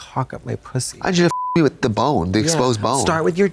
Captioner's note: beep